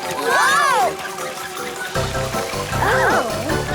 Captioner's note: crank rattles; playful music; group exclaims